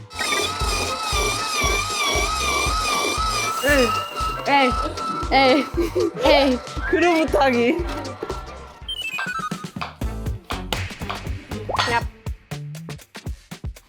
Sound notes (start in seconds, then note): 8.8 smack